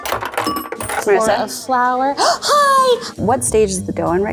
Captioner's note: coins clinking; gasps